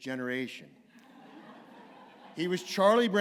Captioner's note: laughter